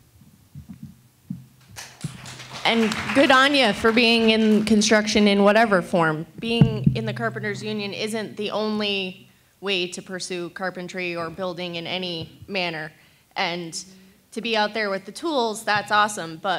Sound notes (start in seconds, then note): 1.6 attendees applauding